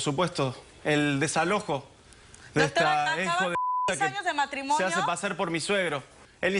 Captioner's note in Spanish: Bip